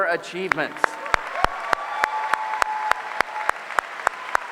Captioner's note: applause